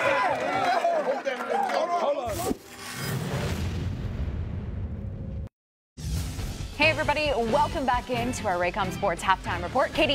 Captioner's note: cheering and applause